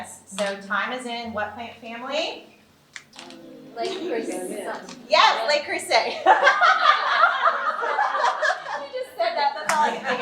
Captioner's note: all laughing